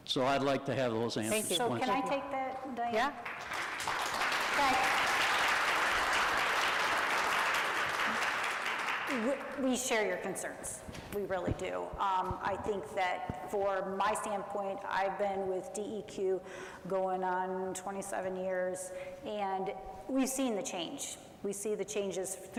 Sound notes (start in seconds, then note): 3.1 audience applauds